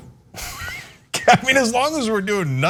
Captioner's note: laugh